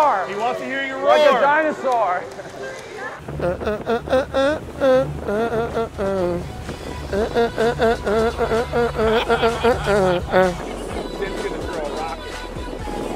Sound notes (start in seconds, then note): 1.8 humming